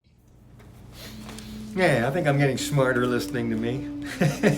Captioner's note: laughs